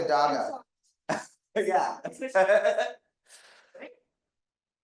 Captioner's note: laughing